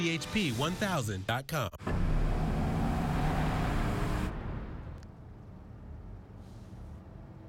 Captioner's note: SFX: Engine sound